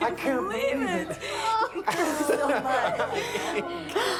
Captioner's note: laughing